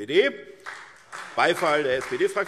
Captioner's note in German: Beifall SPD